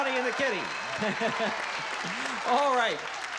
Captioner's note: chuckles